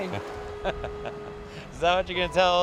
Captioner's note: laughing